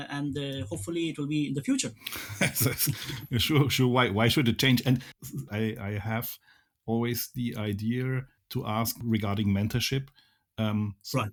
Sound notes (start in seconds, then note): 2.0 laughs